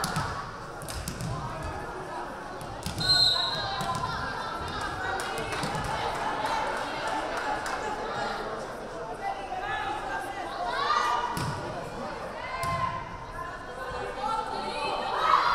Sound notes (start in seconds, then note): 3.0 whistle blaring